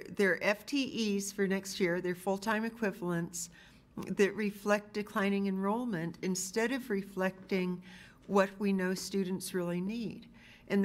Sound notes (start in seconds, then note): none